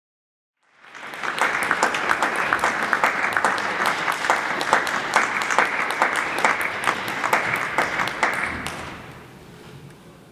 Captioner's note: applause